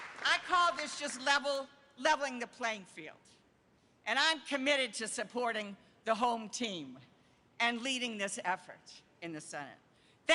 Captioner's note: applause